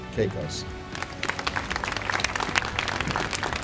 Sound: audience applauds

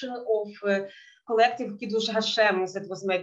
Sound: speaking in Yiddish

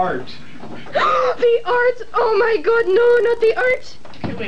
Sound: gasp

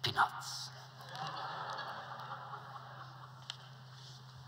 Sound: laughter

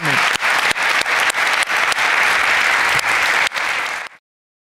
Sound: audience applauding

